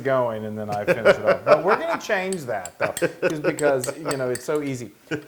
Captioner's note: laugh